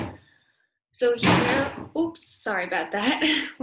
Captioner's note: object banging